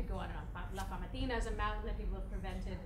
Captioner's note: speaking foreign language